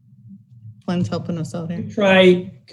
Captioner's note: chattering